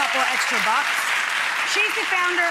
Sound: audience clapping

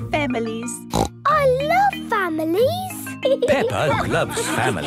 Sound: snorts

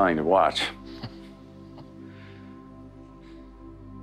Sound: chuckles

